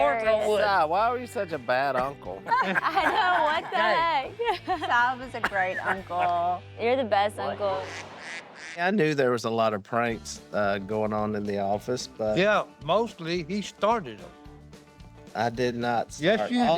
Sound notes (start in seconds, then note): 1.9 laughing